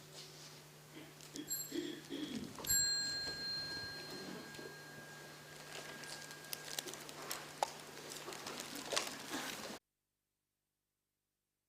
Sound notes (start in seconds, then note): 2.6 hand bell